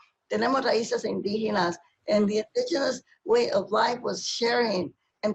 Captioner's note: speaking spanish